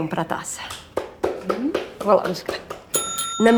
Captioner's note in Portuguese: tilintar